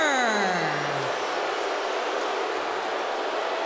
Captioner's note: audience booing